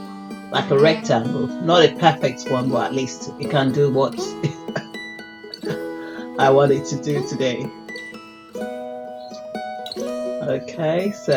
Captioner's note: giggles